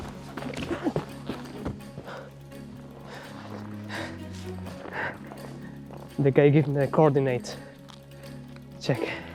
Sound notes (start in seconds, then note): 1.1 panting